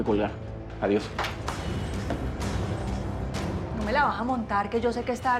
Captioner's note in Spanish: sonido al abrir la puerta